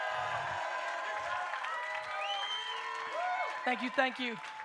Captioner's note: audience cheers and applauds